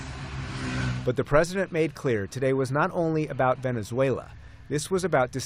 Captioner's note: voice-over